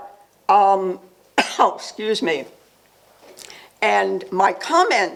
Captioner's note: coughs